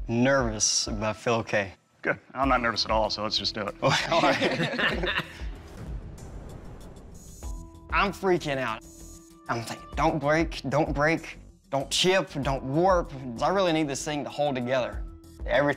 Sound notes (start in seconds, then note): 3.8 laughter